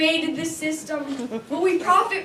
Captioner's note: audience Member Laughs